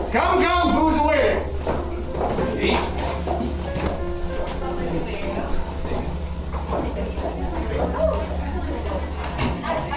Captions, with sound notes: Come, come! Foods awaiting! Let's Eat! It’s lovely seeing you [People mutter]